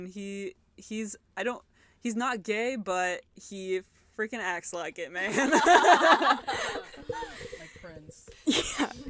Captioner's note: laughter